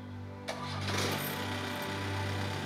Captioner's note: Engine starts